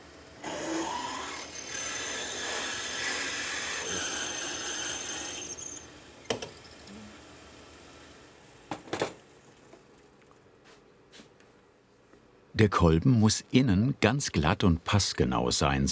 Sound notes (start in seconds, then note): 0.4 grinding noises; 8.4 clattering